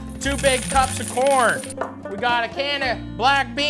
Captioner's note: coins falling